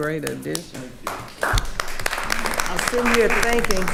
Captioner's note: attendees applauding